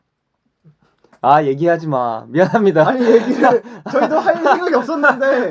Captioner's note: laughs